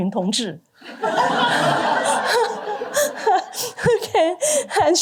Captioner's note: laughter